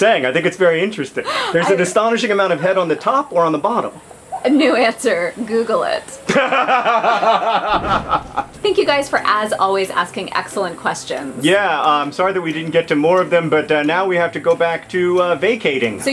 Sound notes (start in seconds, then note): 6.2 john laughs